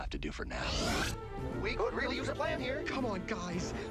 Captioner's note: none